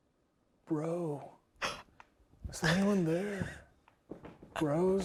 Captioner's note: players laughing quietly